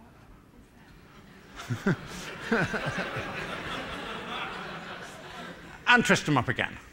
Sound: laughter

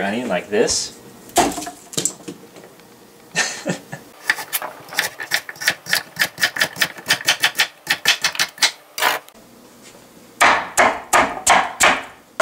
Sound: laughter

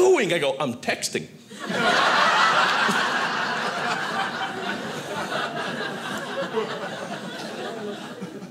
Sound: audience laughing

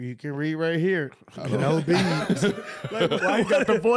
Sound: laughing

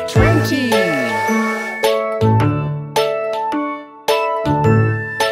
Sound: train whistles

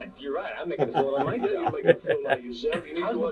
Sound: David chuckles; interviewer chuckles

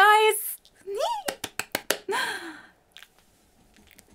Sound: giggles

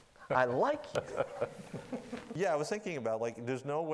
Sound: laughing

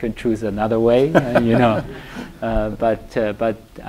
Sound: laughter

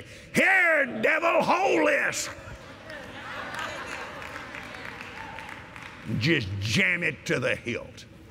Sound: laughter & Applause

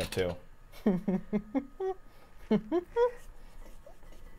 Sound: chuckles

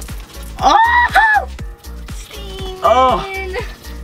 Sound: oil splashing; screaming

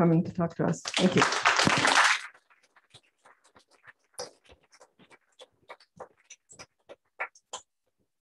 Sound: applause

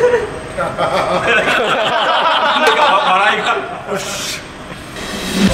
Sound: Egashira's sad laughter

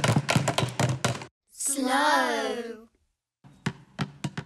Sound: kids call out

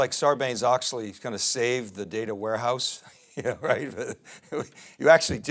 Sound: laughs

